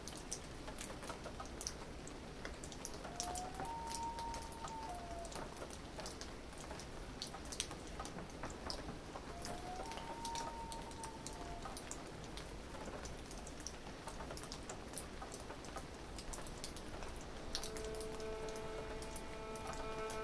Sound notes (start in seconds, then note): 3.2 light rain, loon calls